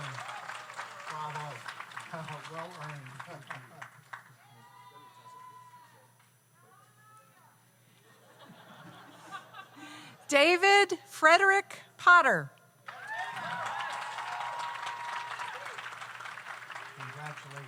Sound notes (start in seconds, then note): 0.0 audience applauds; 0.0 audience cheers; 8.2 audience laughs; 12.8 audience applauds; 12.9 audience cheers